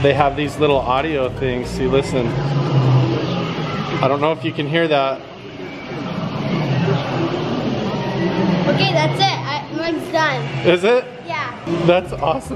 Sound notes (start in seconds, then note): 6.0 lion growing